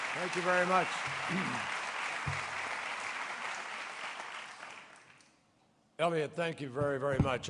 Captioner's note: applause